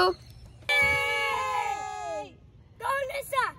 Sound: cheering

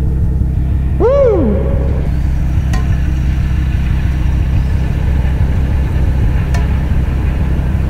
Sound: hands clank rhythmically

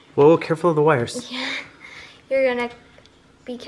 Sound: chuckles

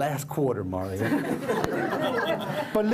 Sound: laughter

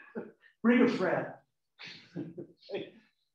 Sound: laughing

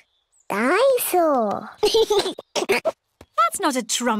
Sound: giggles

